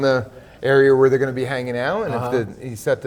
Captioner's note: laughs